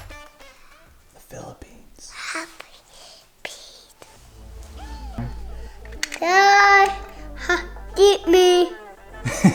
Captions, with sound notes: (whispers) the Philippines Jeepney